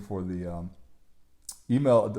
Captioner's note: lips clicking